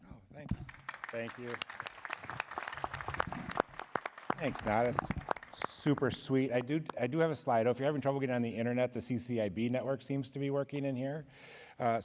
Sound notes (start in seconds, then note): 0.5 applause